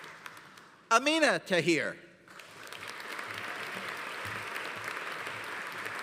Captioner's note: audience applauding